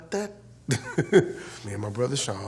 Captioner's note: laughs